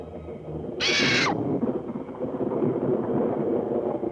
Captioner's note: bird squawking